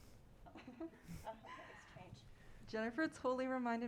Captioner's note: giggles